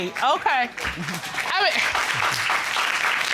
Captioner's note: audience applauding